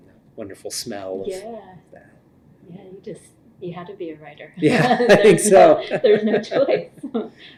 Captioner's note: laughter